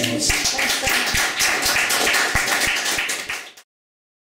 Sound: applause

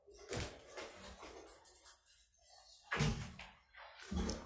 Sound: plastic clacking

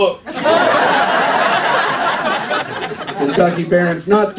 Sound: laughter

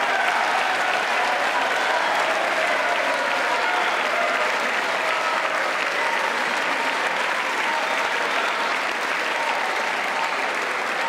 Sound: applause

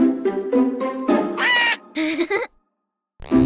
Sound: Pato quacks frighteningly; Pocoyo chuckles

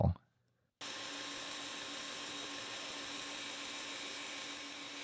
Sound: pantograph whirring

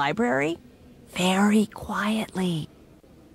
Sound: whispering

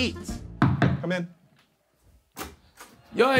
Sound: fist knocking on door

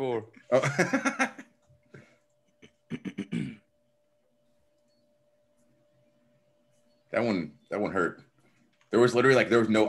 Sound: laugh; cough

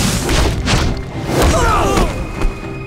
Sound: groaning

